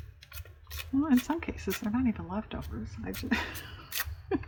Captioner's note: laughs